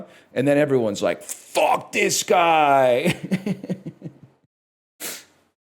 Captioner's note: chuckles